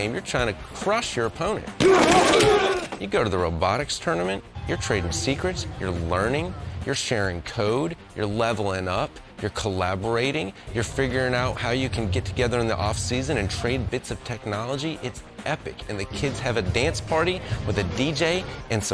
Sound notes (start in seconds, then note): 1.8 players grunting